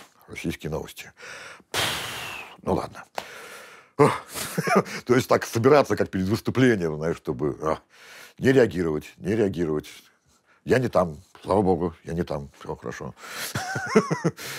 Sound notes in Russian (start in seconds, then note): 1.2 выдыхает; 13.4 смеется